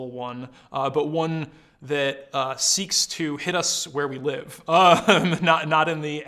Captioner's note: laughs